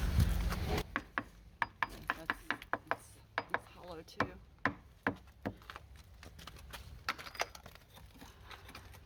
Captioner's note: tapping